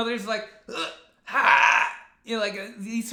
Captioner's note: imitates gasping